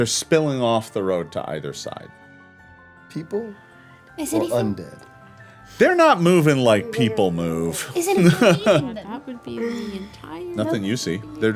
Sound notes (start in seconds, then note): 7.8 laughs